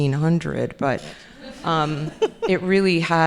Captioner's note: audience laughing